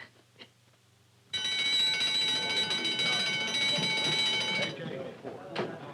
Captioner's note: loud bell ringing; all murmuring